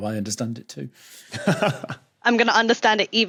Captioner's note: chuckles